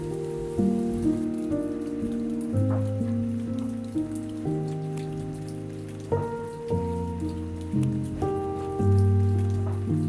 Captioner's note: water fountain